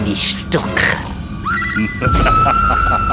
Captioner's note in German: Kreischen; fürchterliches Lachen